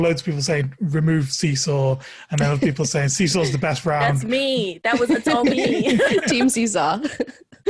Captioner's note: laughs